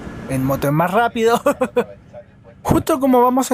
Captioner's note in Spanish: risas